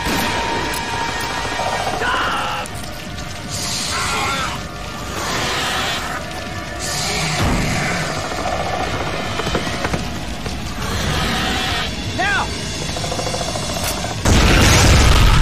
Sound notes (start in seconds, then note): 3.4 centipede roars; 8.2 centipede growls; 10.7 centipede roars; 13.7 metal click; 14.2 loud explosions